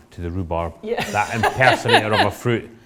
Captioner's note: laughs